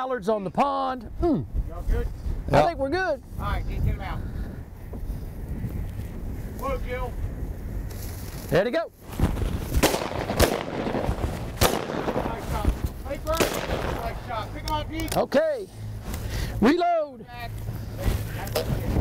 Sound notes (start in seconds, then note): 9.7 gunshots firing